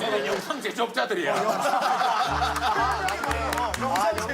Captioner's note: laughing